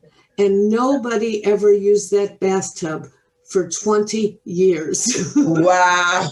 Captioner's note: laughing